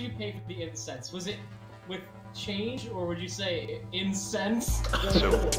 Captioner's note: laughs